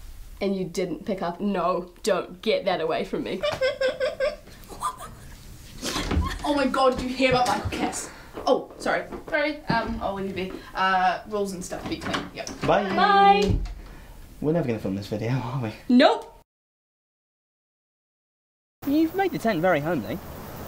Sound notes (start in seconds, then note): 3.3 laughing; 5.9 door opening, running footsteps; 13.3 door closing; 18.8 wind